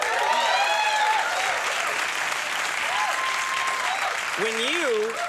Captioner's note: audience cheering